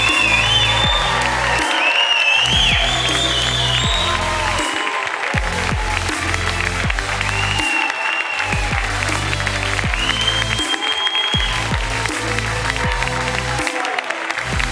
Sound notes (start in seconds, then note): 0.9 audience cheering